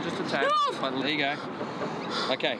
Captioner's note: yells in fear